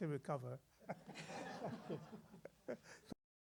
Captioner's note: laughter